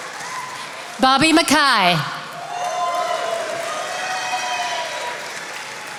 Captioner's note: attendees applauding